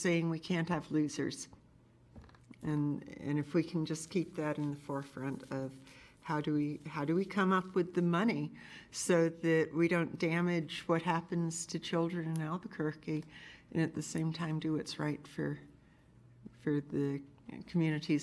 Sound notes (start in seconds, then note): none